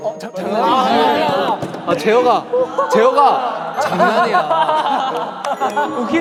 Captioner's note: laughing